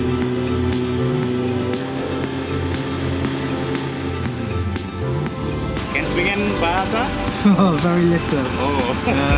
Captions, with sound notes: (soft music) (speaking in foreign language) - Very little.